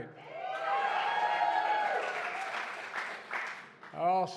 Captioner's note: applause